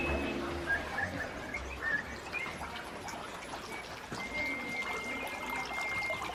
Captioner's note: twinkling, chirping noises